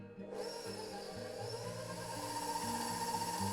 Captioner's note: whirring